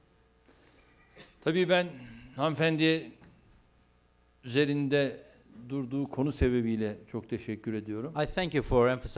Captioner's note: non-english speech